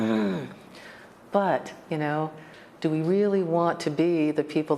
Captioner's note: groans